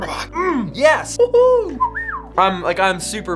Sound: whistles

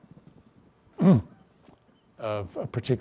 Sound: clears throat

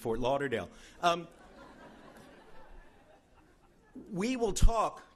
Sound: laughing

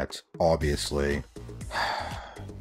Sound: sighs

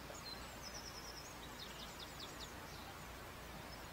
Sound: bird Song

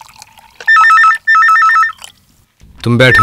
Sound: phone rings

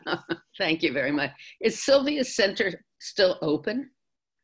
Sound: laughs

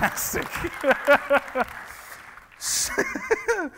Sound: laughing

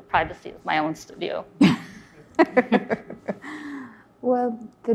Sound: laughs

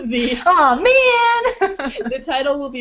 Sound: laughing; more laughter

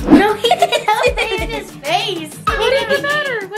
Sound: girls laugh

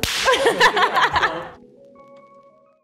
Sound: clapping hands; both laughing

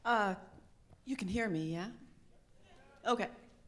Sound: audience murmurs

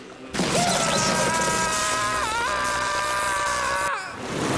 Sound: screaming

